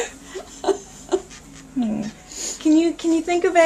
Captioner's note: laughs